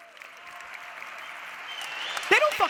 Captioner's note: audience applause